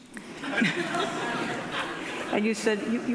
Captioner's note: audience laughing